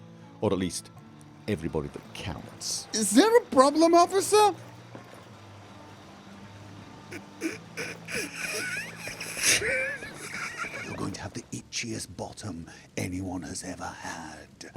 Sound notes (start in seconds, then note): 7.1 stifled laughter; 10.7 hushed